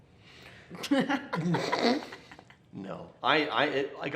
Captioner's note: laughs